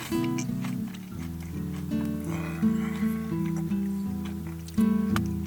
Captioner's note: crying